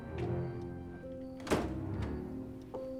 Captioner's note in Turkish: Kapı kapanma sesi